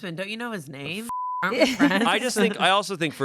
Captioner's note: beep